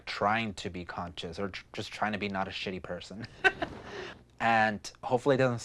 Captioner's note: laughs